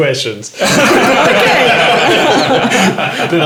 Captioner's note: laughing